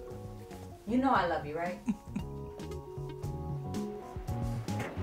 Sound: giggles; sound of approaching Train

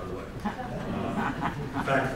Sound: laughter

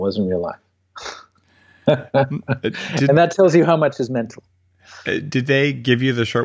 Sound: laughs

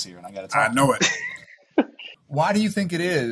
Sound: Anthony laughing

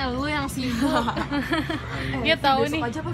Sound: laugh

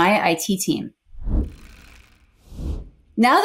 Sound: logo whooshes

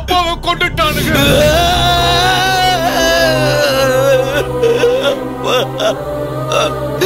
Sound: wailing

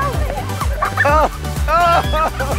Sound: children laughing; male instructor laughs

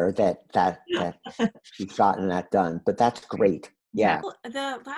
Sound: laughs

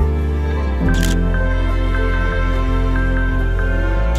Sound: camera shutter clicks

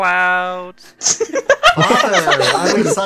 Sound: laughter

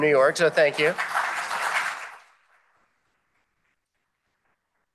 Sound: applause

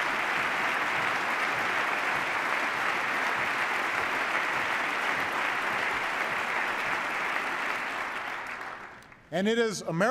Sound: applause

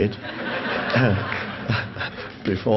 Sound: audience laughs

